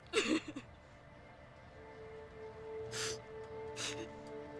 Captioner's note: sobbing